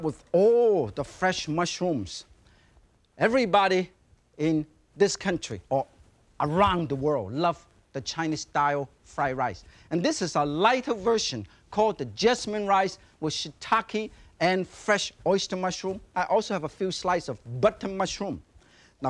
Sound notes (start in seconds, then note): none